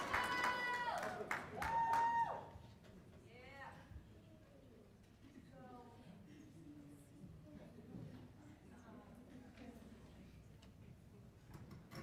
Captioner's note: applause